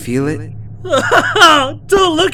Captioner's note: sobbing